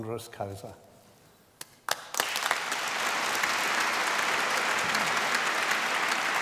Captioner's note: applause